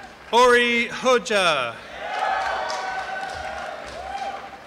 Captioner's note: applause and cheering